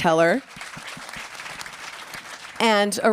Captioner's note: applause